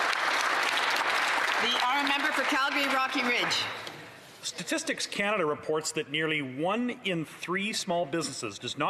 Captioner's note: applause